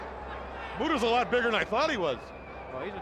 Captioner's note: crowd chatter